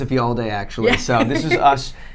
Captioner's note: laughing